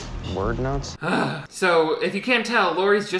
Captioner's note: sighs